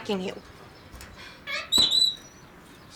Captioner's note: kitty squawks